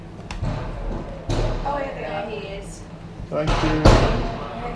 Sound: banging

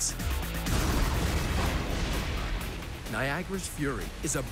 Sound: thunder crashing

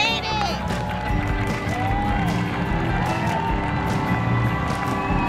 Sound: crowd cheering

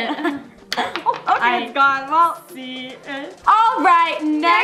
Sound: clink

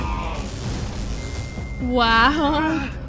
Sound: beep

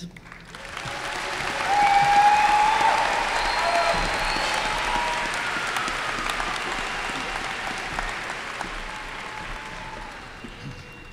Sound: applause and cheers

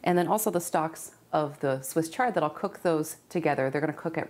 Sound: none

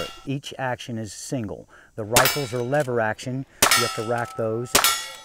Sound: gunshots/plinking sounds

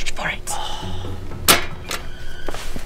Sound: martin sighs

